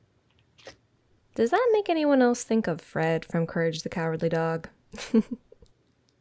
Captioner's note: laugh